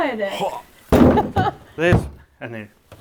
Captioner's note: grunting; clattering; laughing